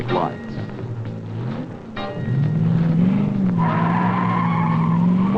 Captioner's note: engine revving; tires screeching